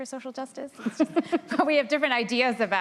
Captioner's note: laughter